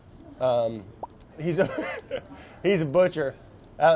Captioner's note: laughter